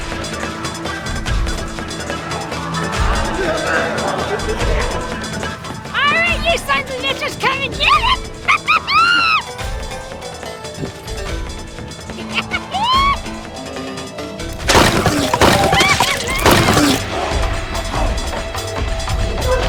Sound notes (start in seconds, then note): 9.6 laughs; 14.7 wrench thudding